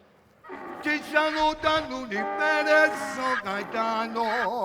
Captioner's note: donkey's bray while anthem continues